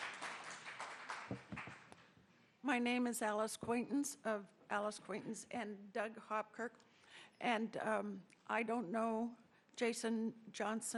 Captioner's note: applause